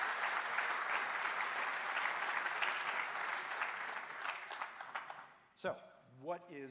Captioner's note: applause